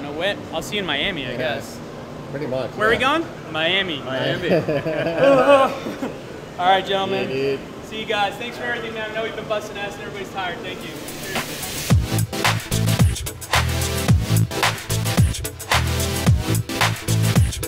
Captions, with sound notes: I don't know when. I'll see you in Miami I guess. - Pretty much, yeah. - Where we going? - Miami. - Miami (laughs). - Alright gentleman. - See you dude. - See you guys. - Thanks for everything man. I know we've been busting ass and everybody's tired. Thank you. (upbeat music)